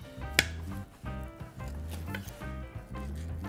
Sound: sound of knife hitting cutting board

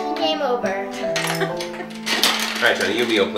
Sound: laughing

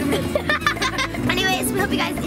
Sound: laughs

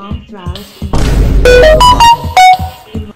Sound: vine boom sound; android notification

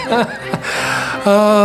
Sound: laughs

